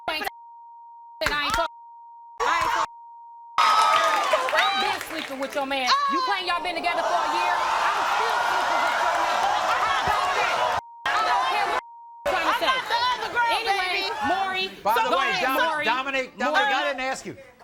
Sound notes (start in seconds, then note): 0.1 beep; 11.0 beep